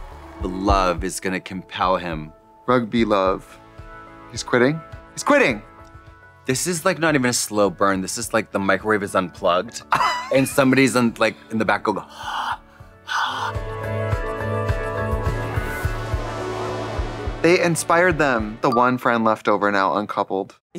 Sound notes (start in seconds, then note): 12.1 Katya heavy breathing; 13.6 soft music